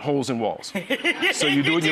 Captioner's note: audience laughs; laughs